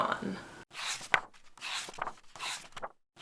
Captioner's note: pages turning